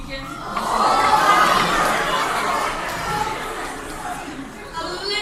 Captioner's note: crowd "oohs" and "ahs"